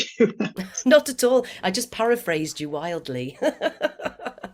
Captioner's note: laughs